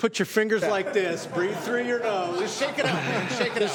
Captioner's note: laughter